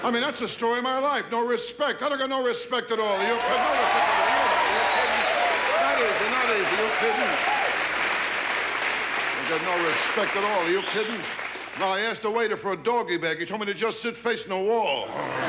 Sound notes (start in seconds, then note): 3.6 audience laughs and claps